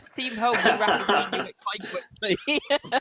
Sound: laughing

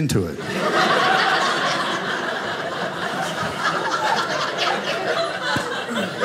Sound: audience laughing

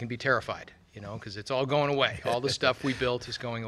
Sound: laughs

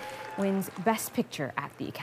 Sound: cheers and Applause

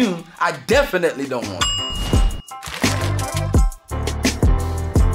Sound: bell sound

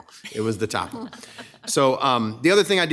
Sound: ladies laughing

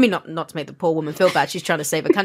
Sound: laughs

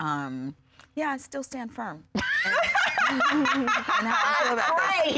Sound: laughing

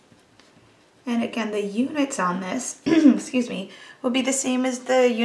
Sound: clears throat

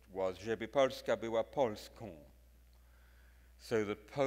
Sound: speaks in foreign language

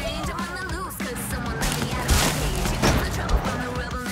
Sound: cracking and crunching

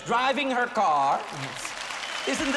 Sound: applause

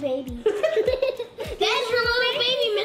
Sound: laughter

